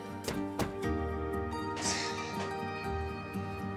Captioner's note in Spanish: exhala